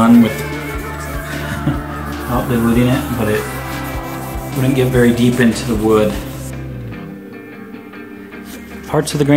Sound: laughs

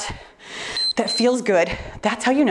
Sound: timer beeps

